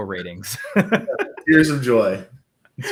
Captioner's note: laughs